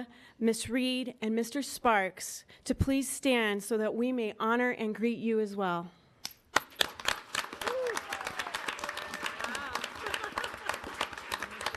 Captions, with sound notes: Ms. Reed, and Mr. Sparks to please stand so that we may honor and greet you as well. (audience applauding)